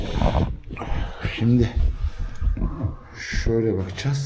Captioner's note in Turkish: homurdanır